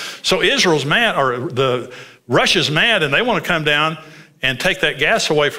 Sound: none

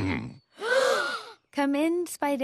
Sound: gasp

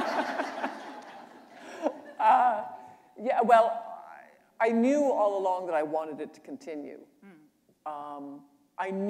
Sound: laughter

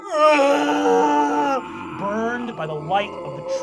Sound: groaning

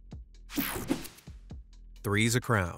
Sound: screen whooshing

